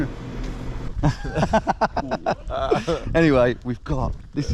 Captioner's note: laughing